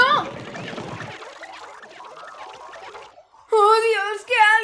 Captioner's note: gloinks boinging, squeaking